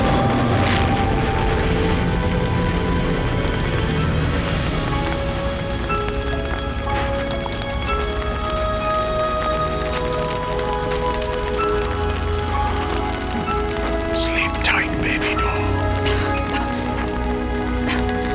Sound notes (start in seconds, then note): 14.5 whispering; 16.3 coughs